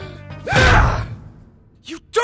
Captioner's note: inhales deeply; hollers